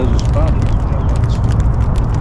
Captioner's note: both of us laugh